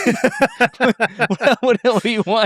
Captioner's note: laugh